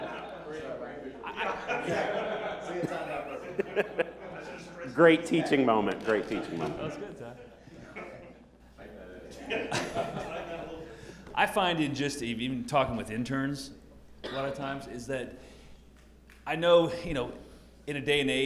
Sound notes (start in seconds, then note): 0.0 chatter